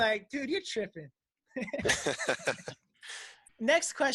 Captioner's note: laughing